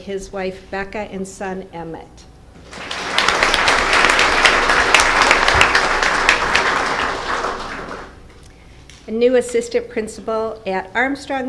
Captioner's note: applause